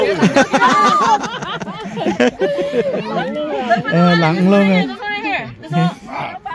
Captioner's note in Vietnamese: Tiếng cười